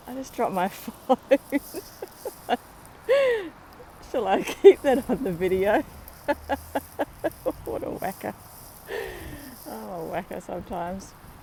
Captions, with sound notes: I just dropped my phone. [laughing] Shall I keep that on the video? [laughing] What a wacker. Oh, I'm a wacker sometimes.